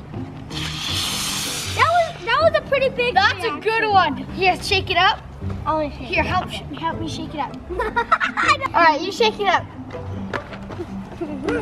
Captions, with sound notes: (loud spurting) - That was a pretty big reaction. - That's a good one. Yeah, shake it up. - I wanna shake it. - Here, help me shake it up. All right, you shake it up.